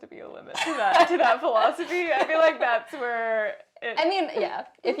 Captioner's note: laugh